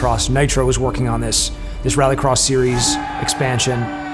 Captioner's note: crowd cheering